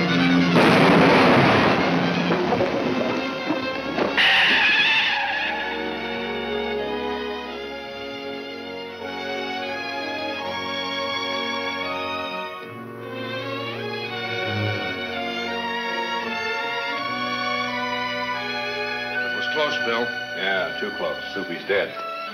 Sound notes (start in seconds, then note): 0.5 explosion roars; 4.2 tires screech; 6.8 somber music